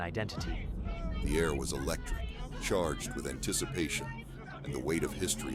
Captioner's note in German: Presse schreit